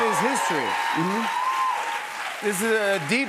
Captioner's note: cheers and applause